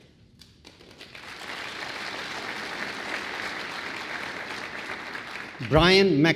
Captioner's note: applause